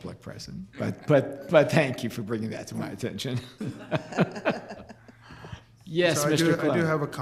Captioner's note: laughs